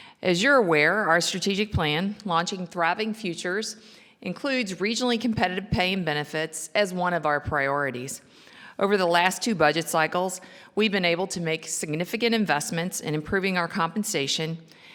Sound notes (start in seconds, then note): none